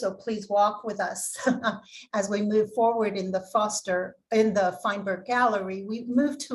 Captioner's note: laughter